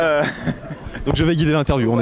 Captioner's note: laughs